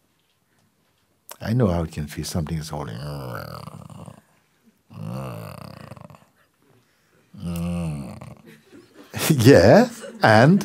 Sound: groaning sounds

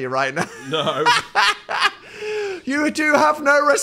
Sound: laughs

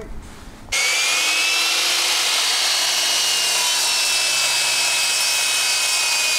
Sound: saw noises

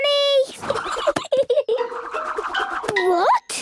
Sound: giggling

